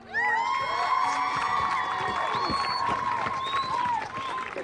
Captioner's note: audience cheering